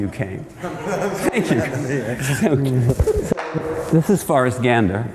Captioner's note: laughter